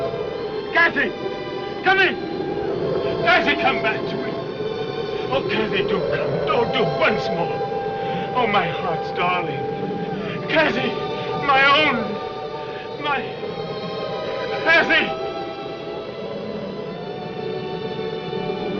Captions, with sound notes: Cathy! Come in! (SOBBING) Cathy, come back to me. Oh, Cathy, do come. Oh, do once more. Oh, my heart's darling. Cathy! My own! My-- Cathy! [wind howls]